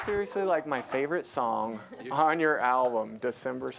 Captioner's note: applause